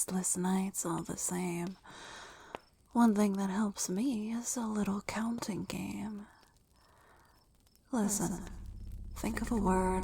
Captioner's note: echoing